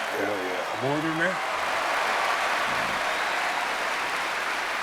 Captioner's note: crowd cheering